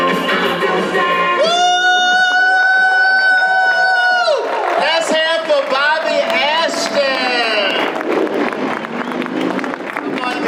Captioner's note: audience applause